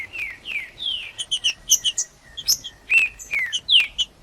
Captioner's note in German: trinca ferro cantando